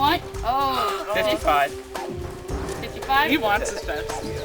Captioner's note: background groans